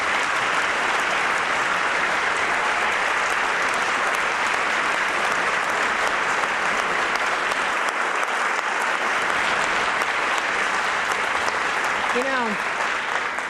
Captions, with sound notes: I AM PROPOSING AN INITIATIVE TO SUPPORT MORE FOSTER AND LOVING HOMES FOR THESE KIDS. [APPLAUSE]